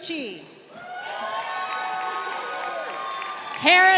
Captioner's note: crowd cheering